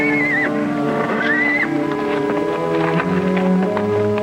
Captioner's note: horse whinnying; foreboding orchestral music